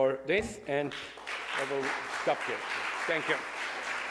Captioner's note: audience applauds